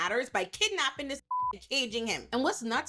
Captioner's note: beep